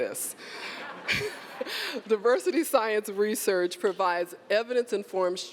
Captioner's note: laughter